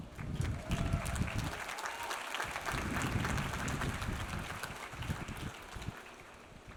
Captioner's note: audience applauds; audience cheers